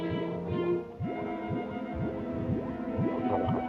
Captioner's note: gurgling